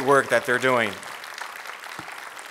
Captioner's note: applause